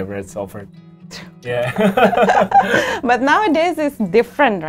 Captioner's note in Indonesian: keduanya tertawa